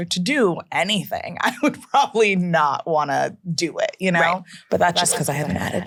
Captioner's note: laughs